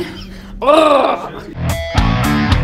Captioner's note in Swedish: Grrrrrrr